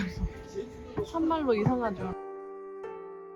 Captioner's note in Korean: ㅋㅋ